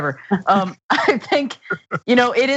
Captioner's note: laugh